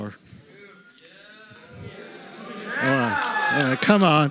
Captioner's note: chatter and shouting